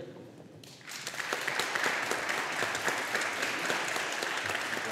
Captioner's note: audience applauding